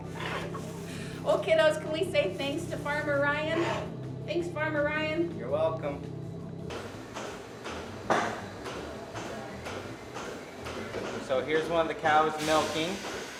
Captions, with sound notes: Well, kiddos, can we say thanks to farmer Ryan? Thanks, farmer Ryan. You're welcome. [machinery clunks] So here's one of the cows milking.